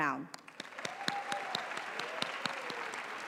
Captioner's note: applause